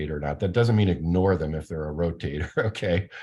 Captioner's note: laughs